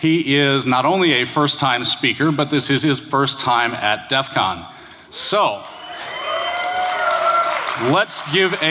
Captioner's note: applause